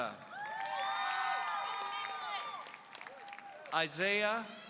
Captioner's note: audience cheering